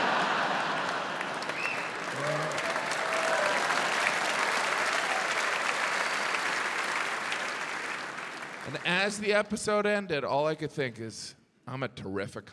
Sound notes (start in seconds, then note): 0.0 audience laughs; 3.0 audience cheering, applauding